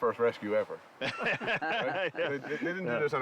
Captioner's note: laughter